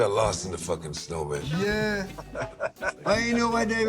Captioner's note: laughter